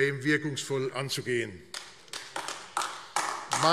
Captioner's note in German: Beifall AfD